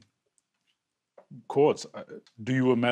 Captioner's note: stutters a bit